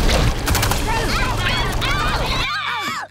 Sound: shouting

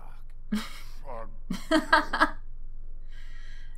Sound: laughs

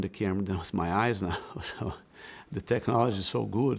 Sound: laughs

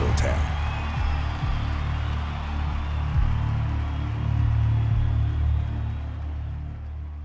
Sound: dramatic music; audience cheering

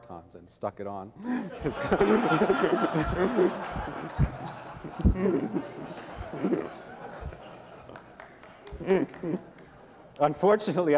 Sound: laughter

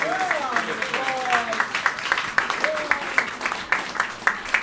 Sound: applauding

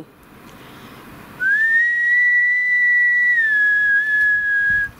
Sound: whistles

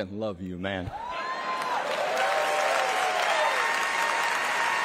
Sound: applause

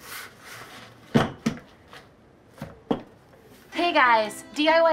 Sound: sander thuds

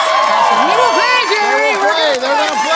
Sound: cheering

